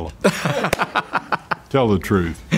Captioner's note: laughs